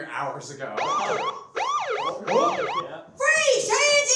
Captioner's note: siren wails